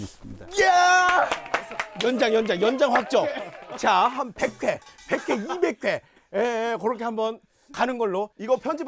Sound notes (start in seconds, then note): 0.9 clap